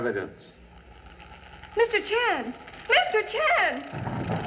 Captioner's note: machinery Creaking